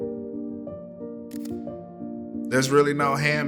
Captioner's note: camera clicking